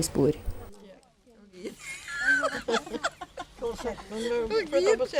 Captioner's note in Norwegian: Ler og skratter sammen